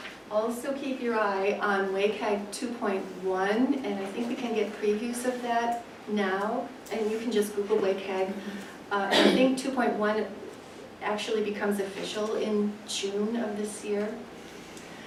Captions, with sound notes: Also, keep your eye on WCAG 2.1 and I think we can get previews of that now. And you can just Google WCAG, (audience coughs) I think 2.1 actually becomes official in June of this year.